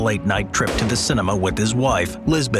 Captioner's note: gun fires